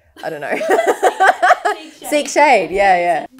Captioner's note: laughs